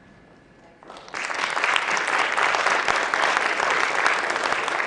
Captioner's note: applause